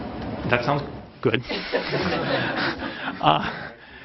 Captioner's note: laughter